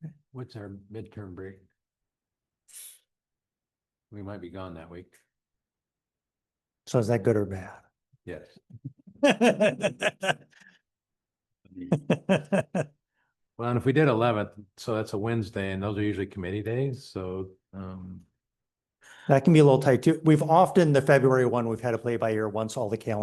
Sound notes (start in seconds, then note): 9.1 laughter